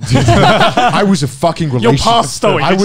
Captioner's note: laughing